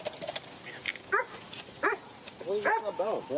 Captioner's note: dog barks